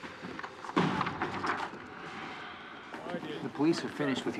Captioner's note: sighs